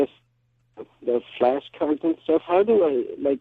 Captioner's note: speaking is muffled